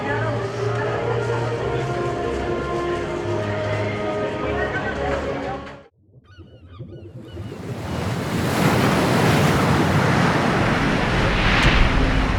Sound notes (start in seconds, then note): 6.2 seagulls squawk; 9.5 water rushes